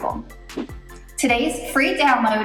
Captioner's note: air whooshes